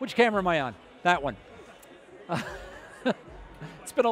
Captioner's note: laughing